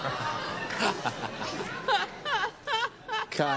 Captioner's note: laughter